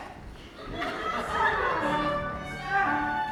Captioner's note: audience laughs